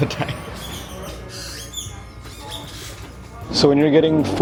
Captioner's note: birds chirping